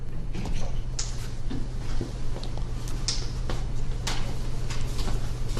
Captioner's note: classroom rustling